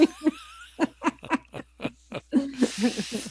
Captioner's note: laughter